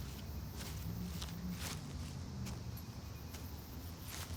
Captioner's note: grass crunching